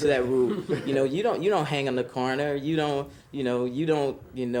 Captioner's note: students chuckling